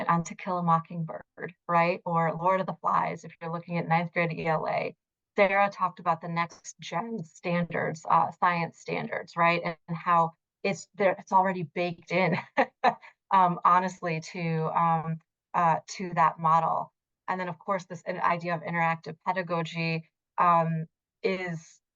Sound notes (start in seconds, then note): 12.2 laughs